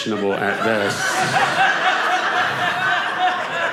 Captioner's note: audience laughing